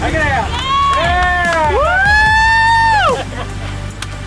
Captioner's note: cheering